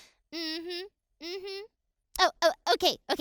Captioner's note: laughs; hums